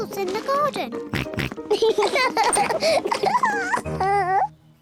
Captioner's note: oinks; both oink and laugh